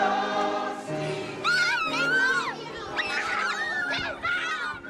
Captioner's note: children screaming